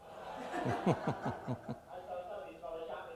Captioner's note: audience laughter